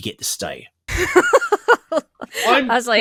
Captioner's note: laughs